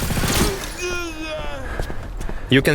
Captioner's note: bandit moaning in pain